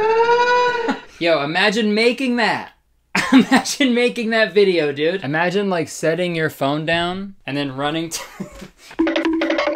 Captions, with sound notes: (laughs) Yo, imagine making that and making that. (chuckles) I'm actually making that video dude. Imagine like setting your phone down and then running to (chuckles).